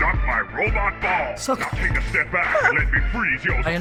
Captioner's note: laughs